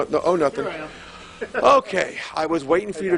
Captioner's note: laughing